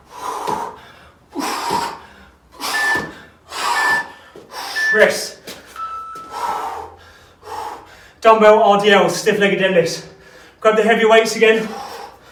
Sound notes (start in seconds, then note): 0.1 exhales sharply; 3.0 beeping